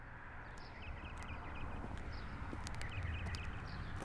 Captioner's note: birds chirping